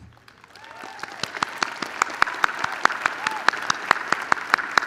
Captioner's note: audience cheering